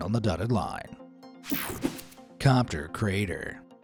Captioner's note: graphics whooshing